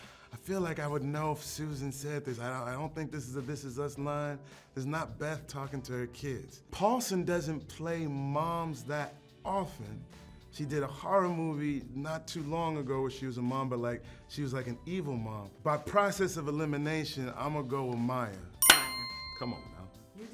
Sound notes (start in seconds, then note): 18.6 bell chimes